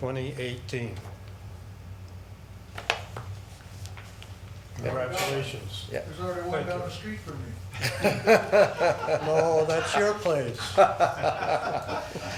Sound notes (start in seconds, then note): 7.7 people laughing